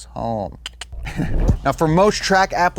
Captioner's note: makes clicking sounds